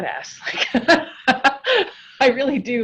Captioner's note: laughs